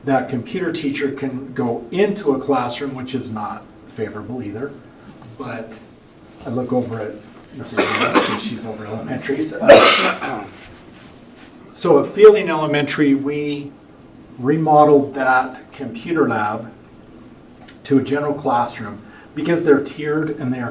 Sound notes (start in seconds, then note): 9.6 cough and clears throat